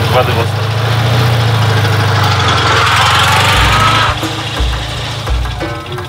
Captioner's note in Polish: dźwięk jadącego samochodu